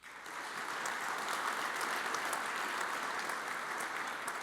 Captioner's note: audience applauds